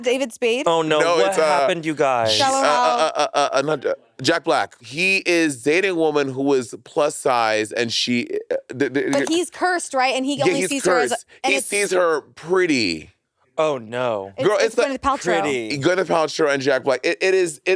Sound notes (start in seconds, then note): 9.1 mouse clicking